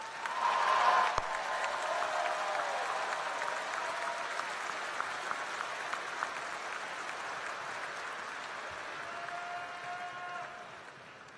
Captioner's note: applause